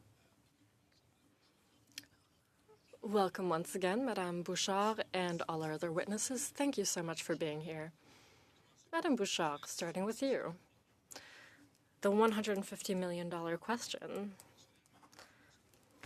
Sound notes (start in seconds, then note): 4.6 speaking French